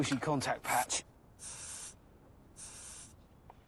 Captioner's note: air pump hissing